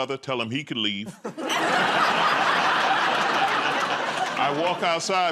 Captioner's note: laughter